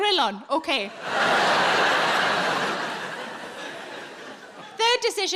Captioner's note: audience laughing